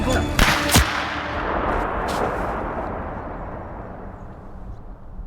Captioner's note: gunshot